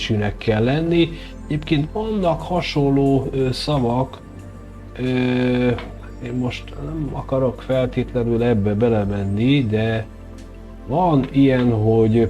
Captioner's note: in Persian